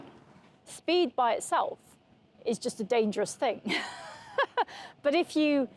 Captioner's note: laughs